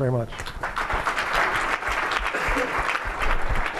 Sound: applause

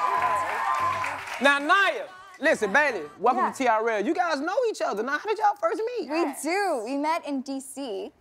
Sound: cheers and applause

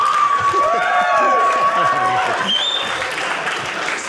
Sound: audience laughing; audience cheering

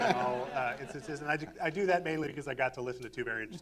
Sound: laughter

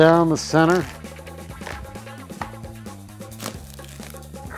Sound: shell cracks

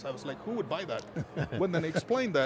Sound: laugh

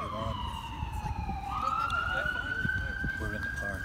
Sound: sirens, passersby in background

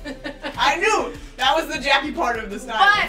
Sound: laughs

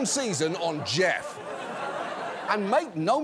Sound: audience laughs

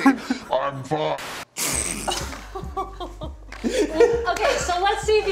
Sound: laugh

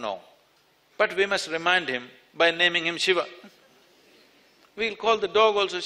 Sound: few laugh

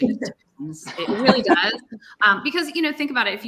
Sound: chuckles

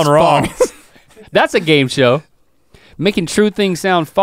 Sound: chuckles

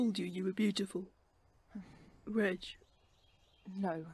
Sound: Regulus' breath hitches

